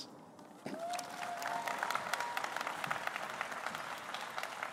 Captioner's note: applause